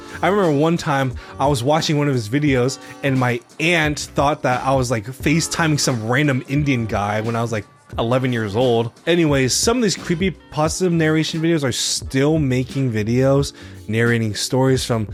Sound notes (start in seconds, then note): none